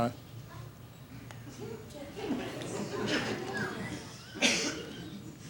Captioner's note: audience chuckling